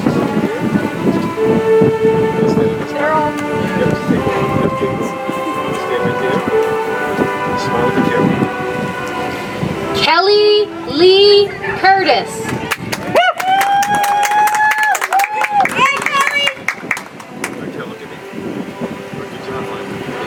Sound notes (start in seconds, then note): 12.4 audience applauds; 16.5 soft music